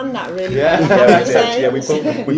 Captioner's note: laughing